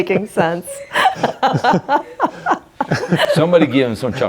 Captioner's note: everybody laughing